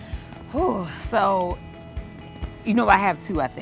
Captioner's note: audibly sighs